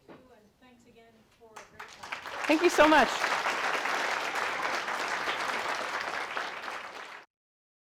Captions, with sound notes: (audience applauds) Thank you so much.